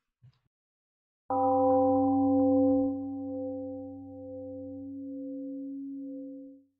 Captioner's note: temple gong rings and fades